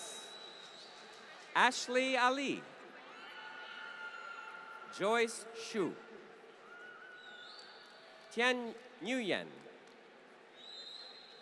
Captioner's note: applause